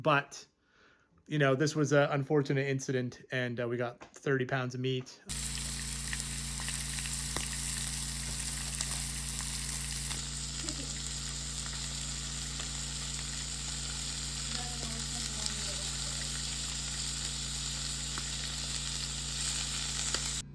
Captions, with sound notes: but this was an unfortunate incident, and we got 30 pounds of meat. (meat sizzling) (meat sizzling)